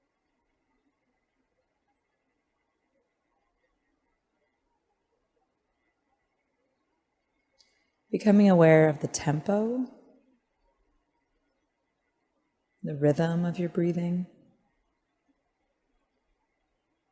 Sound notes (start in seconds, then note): 5.8 silence